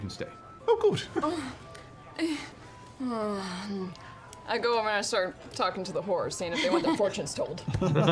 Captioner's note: groans